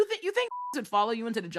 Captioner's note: beep